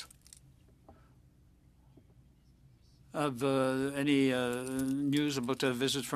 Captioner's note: speaking French